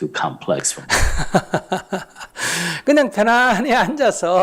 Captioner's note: laughs